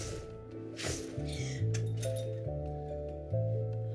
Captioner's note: gasps